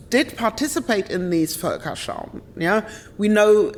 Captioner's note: speaks German